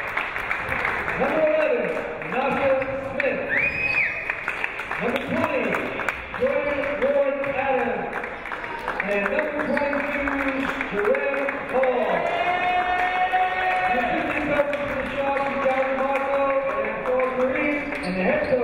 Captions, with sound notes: Number 11, Nasha Smith (clapping) (cheering) Number 20, Jordan Ward-Adams And number 22, Jeren Hall. (cheering) (clapping) The Suffolk Community College Athletics Assistant Basketball Coach Abdur Kareem,